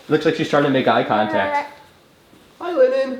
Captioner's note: coos